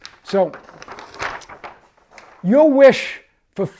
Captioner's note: paper flipping